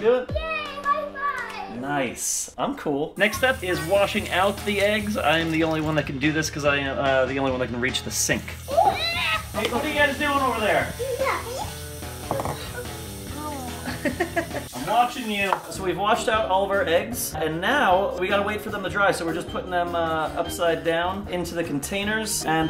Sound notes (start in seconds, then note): 12.2 egg barely thuds against the counter; 12.9 girls gasp; 13.8 laughing